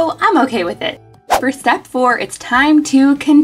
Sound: swishing

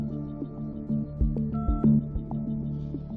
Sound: phone beebs

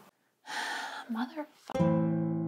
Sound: sigh

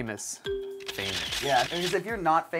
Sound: ding; camera clicking

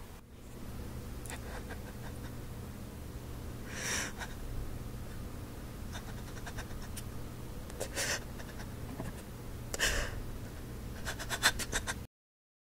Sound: sobs

